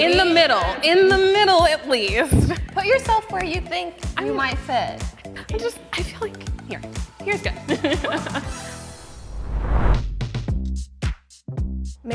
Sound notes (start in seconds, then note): 7.7 chuckles; 10.4 upbeat music